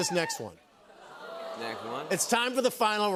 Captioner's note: audience "Oohs"